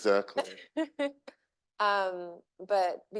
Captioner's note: chuckles